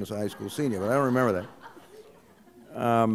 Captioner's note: laughter